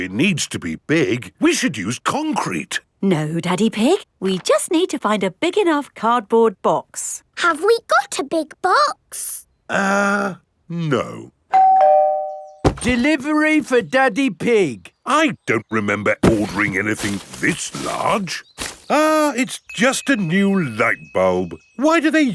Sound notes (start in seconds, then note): 11.5 doorbell rings